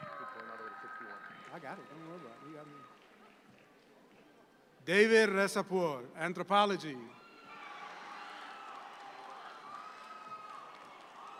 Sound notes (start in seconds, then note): 7.0 audience cheer